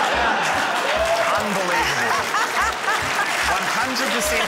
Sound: applause; audience groans, laughs

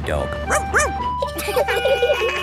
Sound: sirens sounding; barks; laughing

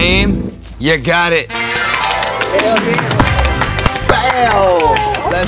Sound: applause

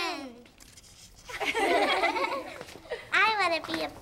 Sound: everyone laughs

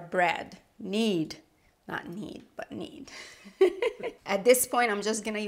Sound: laughing

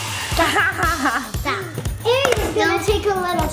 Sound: laughs

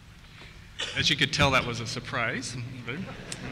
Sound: voiceover

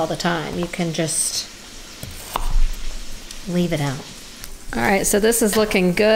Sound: smacks

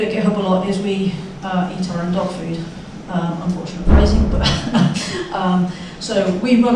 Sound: chuckles

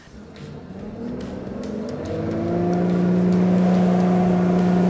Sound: boat engine roaring

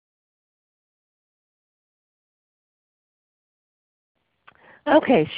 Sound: silence

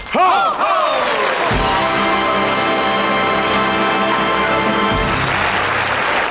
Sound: audience applauding

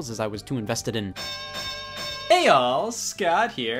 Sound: bell ringing

